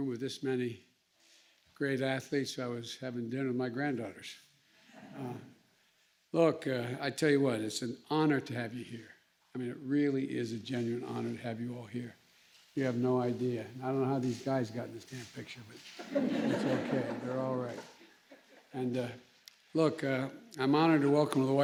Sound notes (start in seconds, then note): 4.9 laughter; 15.9 laughter